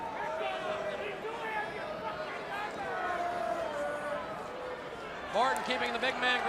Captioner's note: crowd chatter